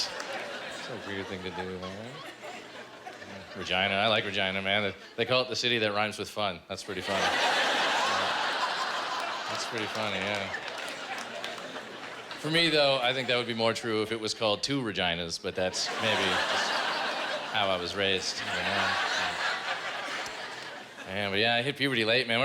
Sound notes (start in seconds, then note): 7.0 laughter